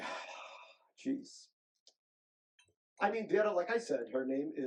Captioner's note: sighs